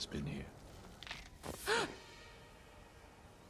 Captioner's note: gasp